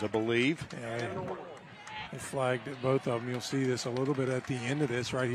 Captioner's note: applause